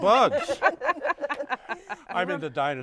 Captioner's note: laughter